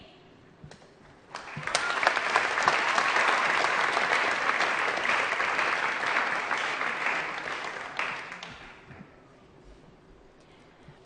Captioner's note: applause